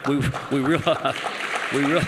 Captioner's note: applause